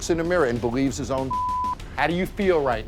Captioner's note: beep